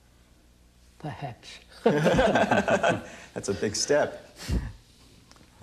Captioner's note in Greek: γέλια